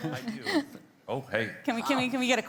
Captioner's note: group laughing